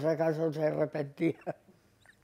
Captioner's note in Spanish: Ríe